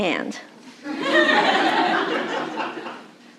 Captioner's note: laughter